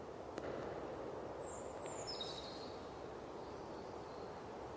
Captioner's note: birds quietly chirping